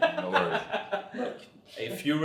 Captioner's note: laughs